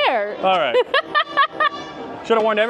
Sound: laughing

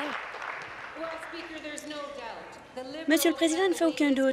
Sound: applause

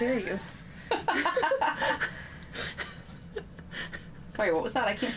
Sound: both laughing

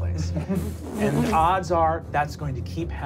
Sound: laughing

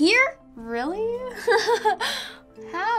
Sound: laughing

